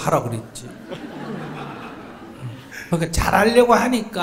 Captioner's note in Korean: 청중 / 질문자 웃음